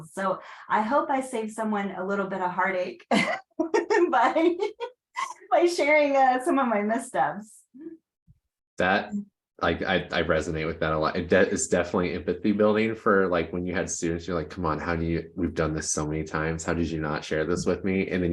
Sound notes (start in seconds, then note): 4.1 laughing